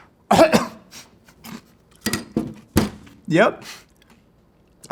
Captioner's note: coughs